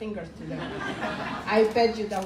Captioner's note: crowd laughing